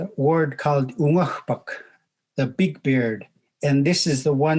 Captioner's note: speaking in Native language